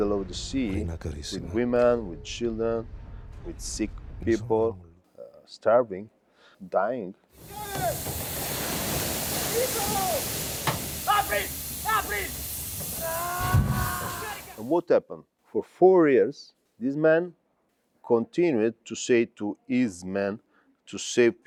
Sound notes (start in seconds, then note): 10.2 conversing in native language